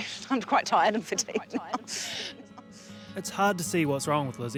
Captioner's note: laughing